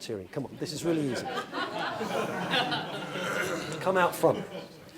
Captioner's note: laugh